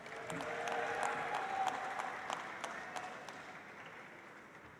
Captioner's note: audience applauds